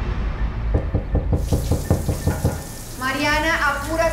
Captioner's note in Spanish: Toques en la puerta